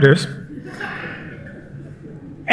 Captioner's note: laughter